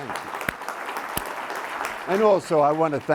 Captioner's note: everyone applauding